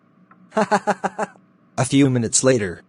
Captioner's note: laughs